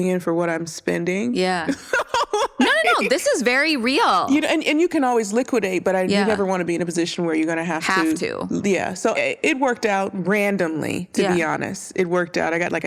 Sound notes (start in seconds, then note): 1.7 laughs